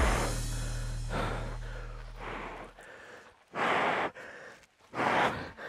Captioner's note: breathing heavily